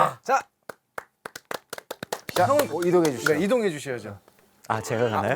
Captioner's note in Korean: 짝짝 짝짝